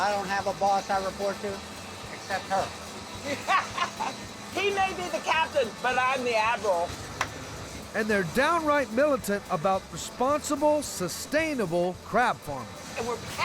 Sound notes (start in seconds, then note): 3.2 everyone laughing; 7.1 claps